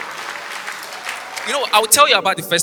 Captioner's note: audience applause